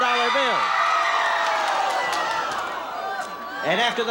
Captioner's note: audience shouting